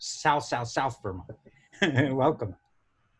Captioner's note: laughs